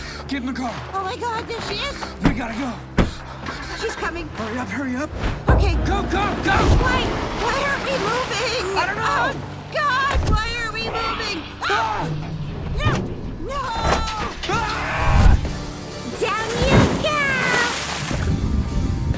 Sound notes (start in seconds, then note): 5.5 muted crying, pounding; 5.5 water splashing